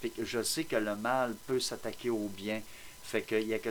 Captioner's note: none